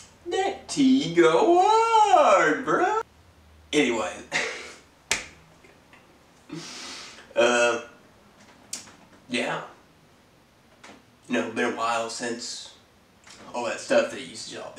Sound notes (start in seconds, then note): 4.3 laughs